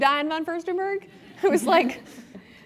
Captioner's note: laugh